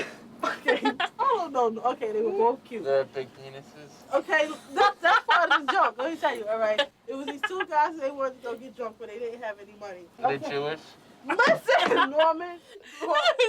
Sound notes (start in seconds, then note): 0.4 laughs; 0.5 chuckles; 4.4 laughs; 11.4 laughs